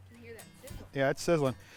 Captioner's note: voiceover